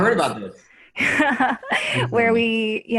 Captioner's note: laughs